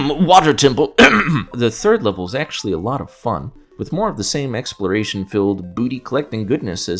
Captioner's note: cough